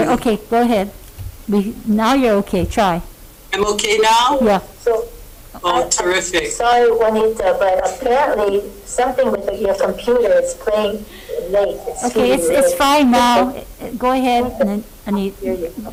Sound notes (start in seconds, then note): 7.1 audio repeating back